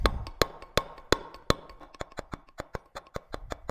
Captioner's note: metal hammering